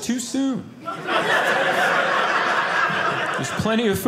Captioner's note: audience laughing